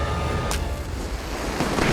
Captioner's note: match strikes